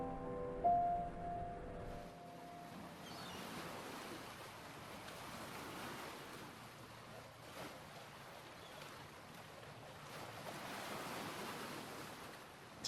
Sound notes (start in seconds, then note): 0.0 soothing music continues; 4.6 waves susurrating